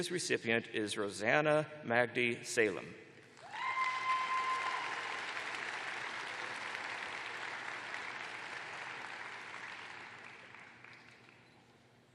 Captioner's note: cheers and applause